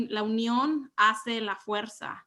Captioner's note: speaks Spanish